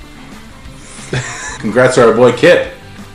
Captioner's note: laughing